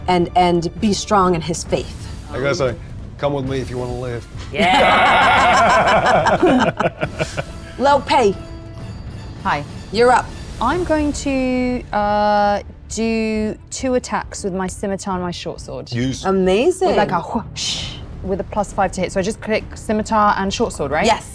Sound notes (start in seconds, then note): 4.4 laughing; 17.4 imitates whoosh